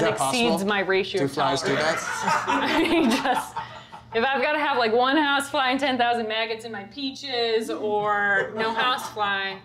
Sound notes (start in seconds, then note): 1.7 audience laughter